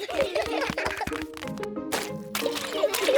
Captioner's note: all giggling